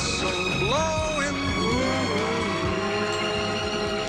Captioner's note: whistles